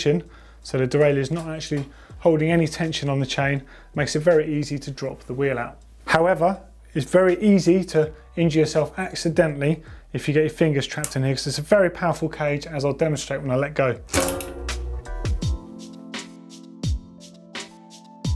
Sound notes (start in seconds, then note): 14.1 cage bonging; 15.4 cool vibe music